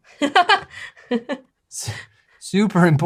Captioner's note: laughs